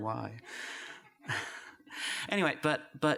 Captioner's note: laughter